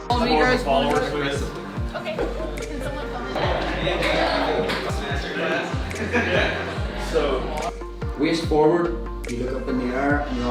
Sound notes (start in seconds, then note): 4.3 group talking